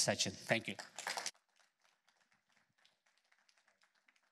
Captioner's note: applause